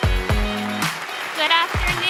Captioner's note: audience applauding